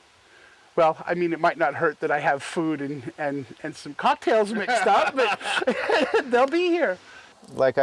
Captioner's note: laughter